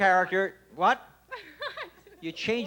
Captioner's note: laughs